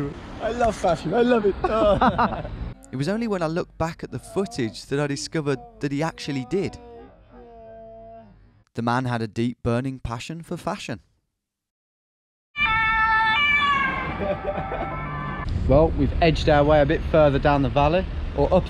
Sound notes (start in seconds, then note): 1.4 both laughing; 12.5 siren wailing; 13.9 laughing